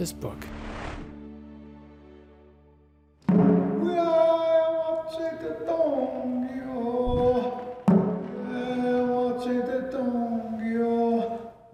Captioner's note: chanting